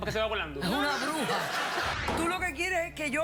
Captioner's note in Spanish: risas